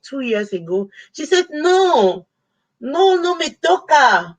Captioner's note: speaking Spanish